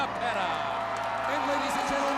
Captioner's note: crowd cheering